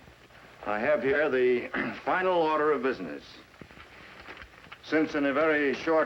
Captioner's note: clears throat